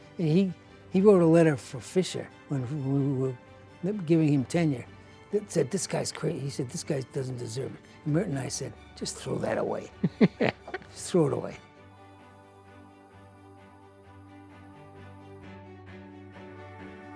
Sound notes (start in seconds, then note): 10.0 laughs; 12.1 uplifting music